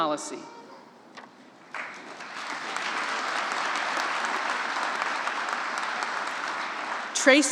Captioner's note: applause